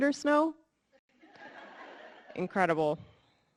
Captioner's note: audience laughing